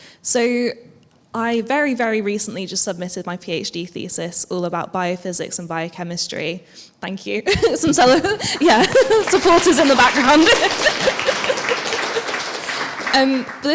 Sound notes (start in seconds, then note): 7.5 chuckles; 7.9 audience applauds; 12.0 laughs